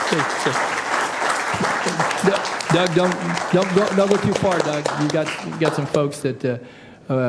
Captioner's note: applause